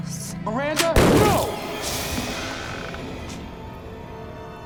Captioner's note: gunshot; dramatic music